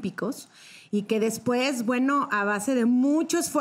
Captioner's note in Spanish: none